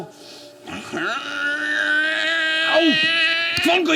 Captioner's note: straining noise